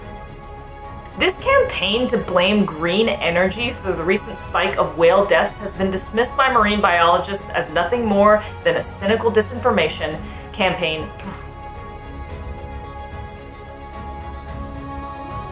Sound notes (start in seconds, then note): 0.1 background music; 11.0 growls; 11.6 background music